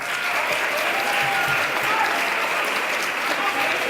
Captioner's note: audience clapping